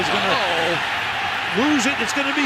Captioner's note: cheering